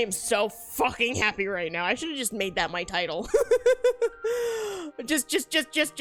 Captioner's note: laughs